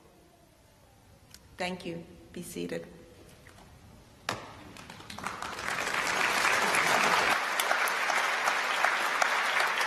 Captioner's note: applause